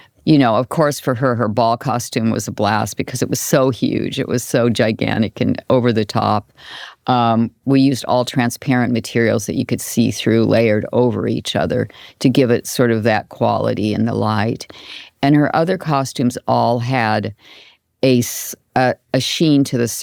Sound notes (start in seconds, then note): none